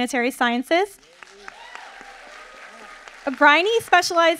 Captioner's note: audience applauding